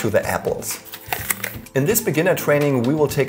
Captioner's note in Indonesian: Suara gigitan